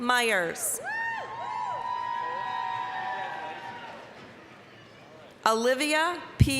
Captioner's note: applause, cheering